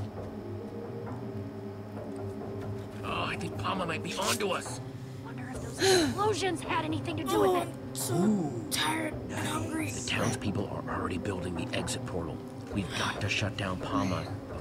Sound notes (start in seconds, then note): 5.7 Sabrina sighs; 8.0 groans